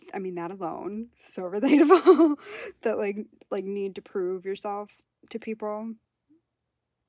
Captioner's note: laughs